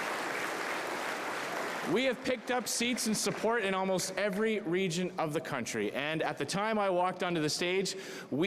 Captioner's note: cheering